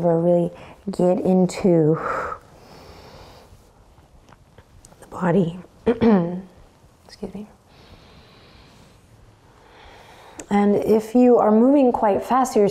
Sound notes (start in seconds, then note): 5.9 clears throat